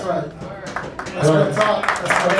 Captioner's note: applauding